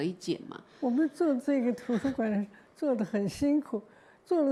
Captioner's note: Mandarin